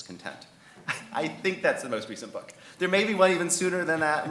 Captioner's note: chuckles